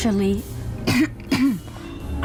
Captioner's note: clears throat